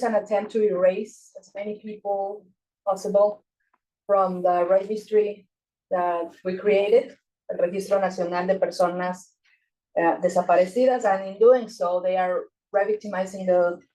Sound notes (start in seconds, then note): 7.6 speaking Spanish